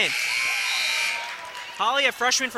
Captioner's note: buzzer sounding